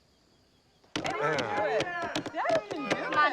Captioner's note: cheers